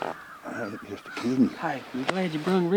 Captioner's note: muttering